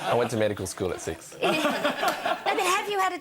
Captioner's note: audience laughs